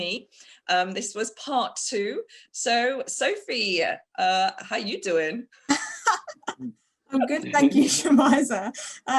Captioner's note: laughter